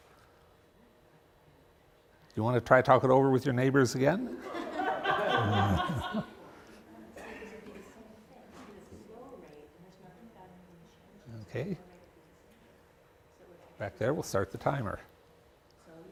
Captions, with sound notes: You want to try talk it over with your neighbors again? [LAUGHTER] [AUDIENCE TALKING SOFTLY TO EACH OTHER] OK, back there we'll start the timer.